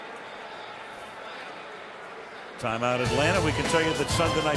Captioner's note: pa announcement